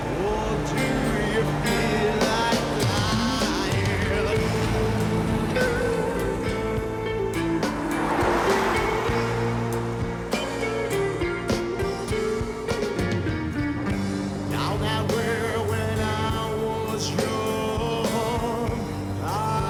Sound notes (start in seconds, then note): 4.5 dramatic rock music; 8.3 car whooshes; 10.5 dramatic rock music